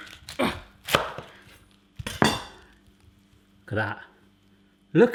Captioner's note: loud chop